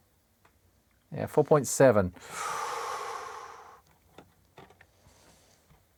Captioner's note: exhales